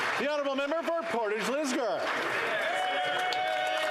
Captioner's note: some Applause